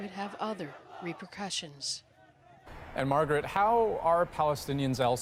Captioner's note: chanting